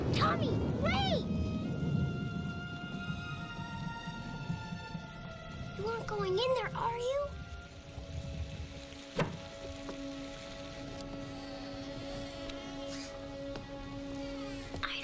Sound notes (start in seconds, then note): 0.0 lightning crashes; 9.1 wood clunks; 11.3 hinges creaking